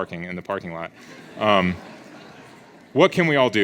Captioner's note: audience laughs